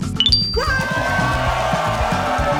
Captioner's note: applause